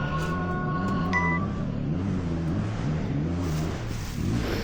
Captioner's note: engine revving